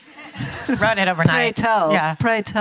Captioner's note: audience laughter